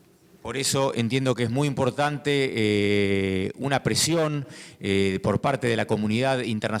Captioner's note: speaking in foreign language